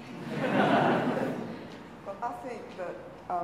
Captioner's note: audience laughing